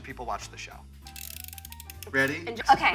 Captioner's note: timer whirring